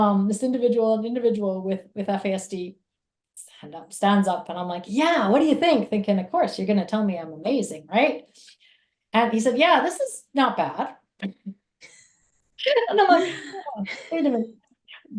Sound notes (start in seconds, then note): 10.9 chuckles